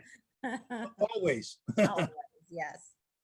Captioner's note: laughing